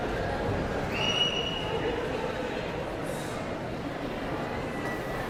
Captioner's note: audience member whistles